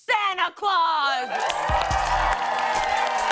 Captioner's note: cheers and applause